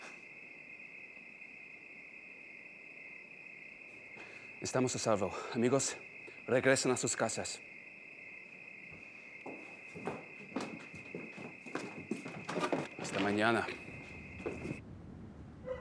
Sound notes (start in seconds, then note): 4.8 pedro speaking spanish; 13.4 pedro speaking spanish